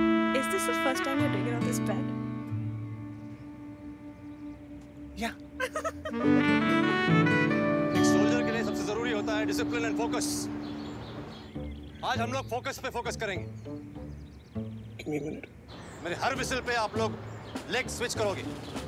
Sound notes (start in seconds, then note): 5.5 Laughing